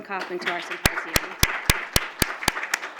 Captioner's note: applause